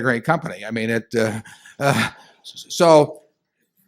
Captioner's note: laughter